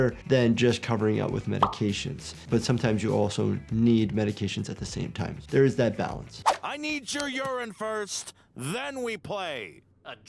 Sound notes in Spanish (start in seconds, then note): none